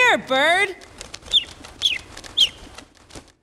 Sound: bird chirps

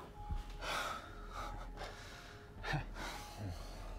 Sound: both sighs

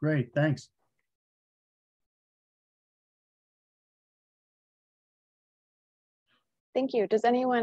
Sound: silence

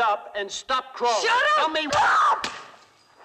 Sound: shouts

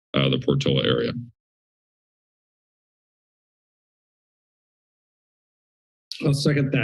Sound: silence

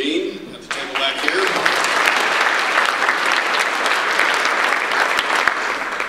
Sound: audience applause

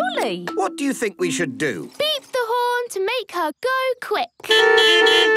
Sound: beeping

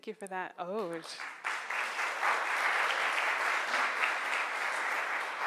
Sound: crowd applauds

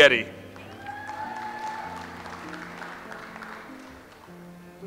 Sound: audience applauds

